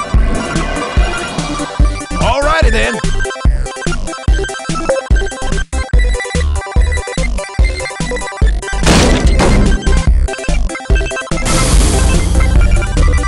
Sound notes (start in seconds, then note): 4.8 blip; 8.8 metal Impact